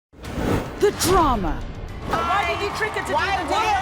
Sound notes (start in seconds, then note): 0.2 swoosh